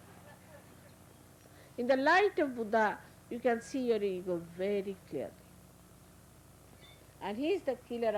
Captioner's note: laughter